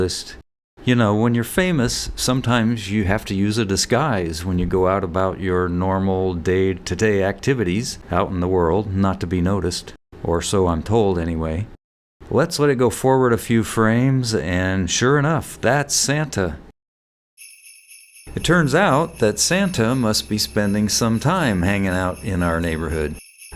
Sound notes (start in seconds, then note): 17.4 jingle bells jingling in background